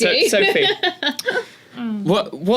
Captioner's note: laugh